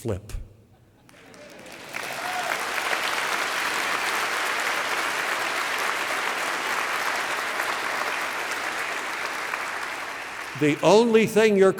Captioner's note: applause